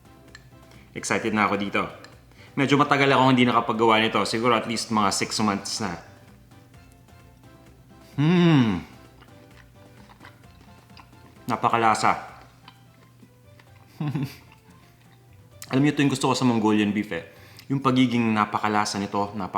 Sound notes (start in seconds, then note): 13.9 giggles